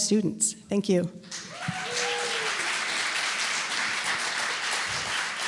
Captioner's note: applause and cheering